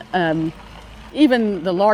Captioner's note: none